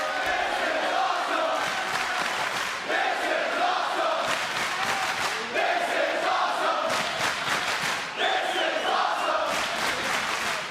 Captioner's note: crowd chants "this is awesome"